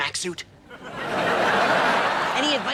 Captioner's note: audience laughs